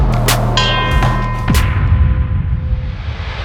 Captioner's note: bell ringing; intense music